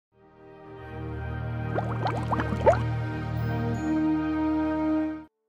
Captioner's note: beaker bubbles up